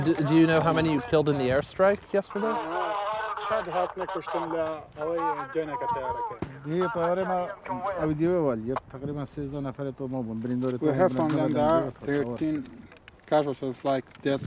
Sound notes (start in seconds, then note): 1.9 man speaking foreign language on radio; 7.1 speaking foreign language